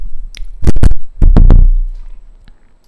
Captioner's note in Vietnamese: Đập đập mic